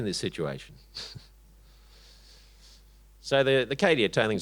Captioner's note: chuckles